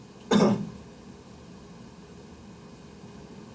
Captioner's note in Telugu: గొంతు సవరించుకోవడం